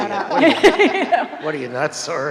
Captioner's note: both laughing